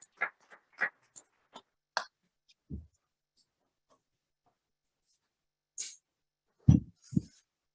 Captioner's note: applause